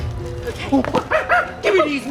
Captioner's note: monkey cackling